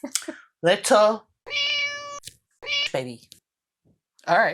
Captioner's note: meow